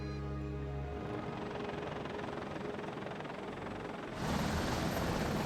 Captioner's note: helicopter fluttering